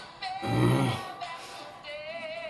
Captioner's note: Angry IT groans